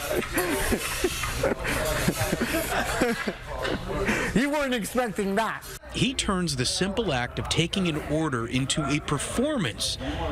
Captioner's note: laughter